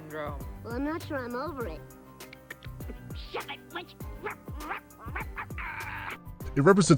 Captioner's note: clicking noises; barks